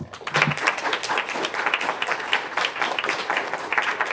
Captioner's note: applause